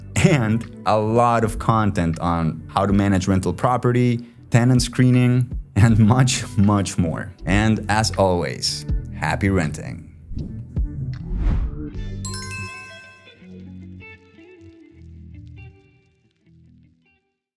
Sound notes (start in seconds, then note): 11.2 logo whooshes; 12.2 upbeat music; 12.2 bell chimes